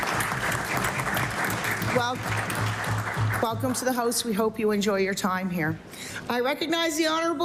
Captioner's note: applause